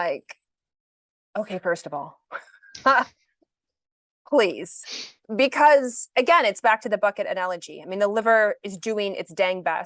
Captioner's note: chuckles